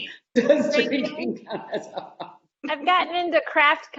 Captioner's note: laughing